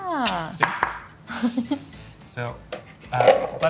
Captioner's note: clicks tongue; bowl clanking